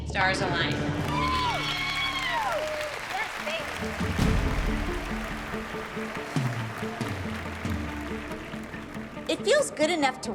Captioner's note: applause